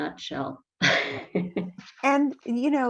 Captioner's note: laughs